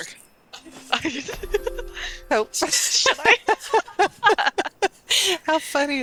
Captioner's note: laughter